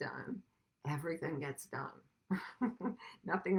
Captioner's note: laughs